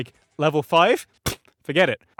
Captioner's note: pffft!